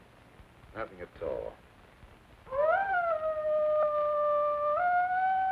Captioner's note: wolf howling